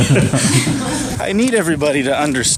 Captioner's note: everyone laughs